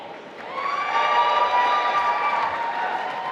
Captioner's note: applause